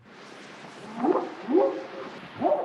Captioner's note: whooping sound